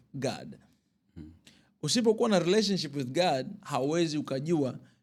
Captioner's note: clears throat